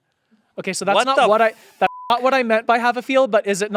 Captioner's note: beep